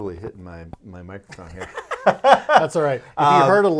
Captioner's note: laughing